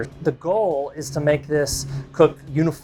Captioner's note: none